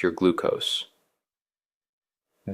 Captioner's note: pause